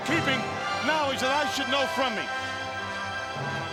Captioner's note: crowd clamoring